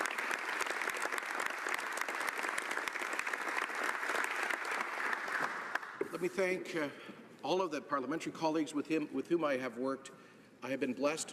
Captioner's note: applause